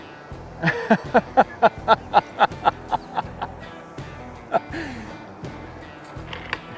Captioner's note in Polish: śmiech